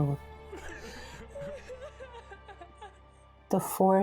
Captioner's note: woman crying